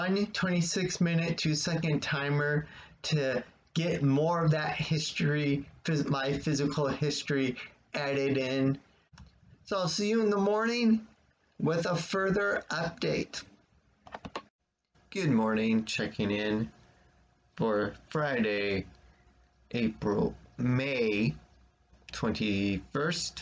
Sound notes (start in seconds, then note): 14.2 click